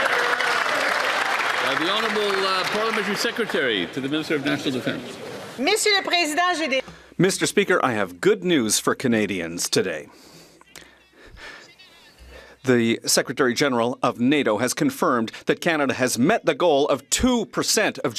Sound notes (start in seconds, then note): 5.4 some Applause; 9.8 speaking French